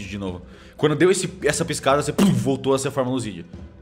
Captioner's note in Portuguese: pluf